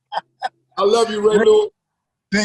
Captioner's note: laughs